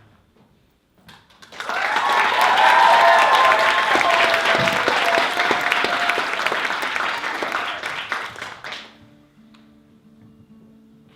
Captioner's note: applause